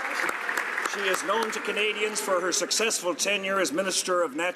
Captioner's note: applause